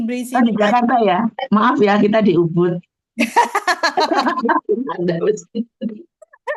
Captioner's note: laugh